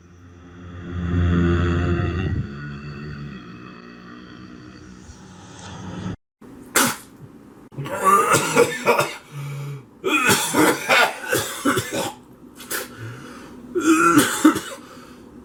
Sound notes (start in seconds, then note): 7.7 coughing; 7.8 gagging; 13.7 coughing continues